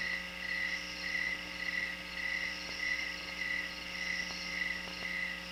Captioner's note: crickets chirping; chirping continues